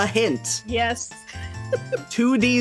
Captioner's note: laughing